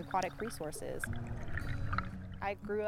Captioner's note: gurgling water